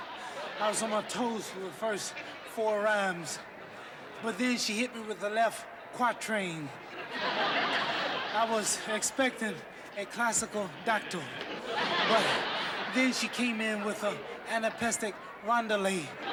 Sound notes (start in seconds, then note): 6.9 laughter